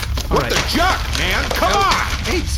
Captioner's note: ripping up paper